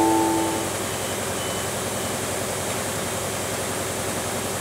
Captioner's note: printing machinery humming